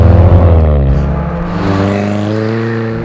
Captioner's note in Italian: auto in lontananza; ruote stridono; gas e forte stridio pneumatici